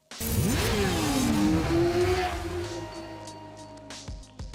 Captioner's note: engines revving